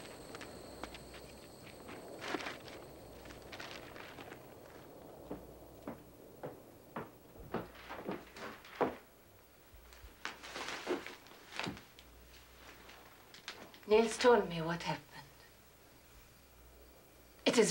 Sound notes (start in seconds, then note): 6.3 footsteps clomping